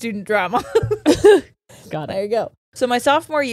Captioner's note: all laughing